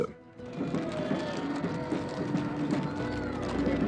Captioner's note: crowd cheering, drums pounding